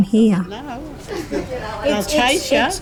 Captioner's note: group laughing